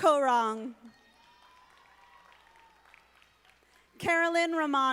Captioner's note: audience applauding